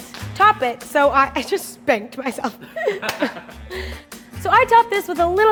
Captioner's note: laughing